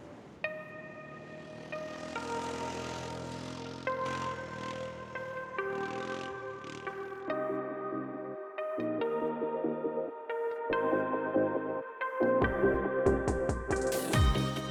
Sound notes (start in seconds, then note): 0.6 bright upbeat music; 1.0 engine revving